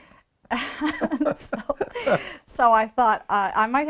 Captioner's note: both chuckles